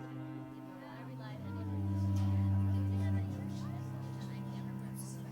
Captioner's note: dramatic string music; people chattering